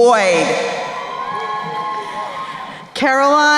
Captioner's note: crowd cheering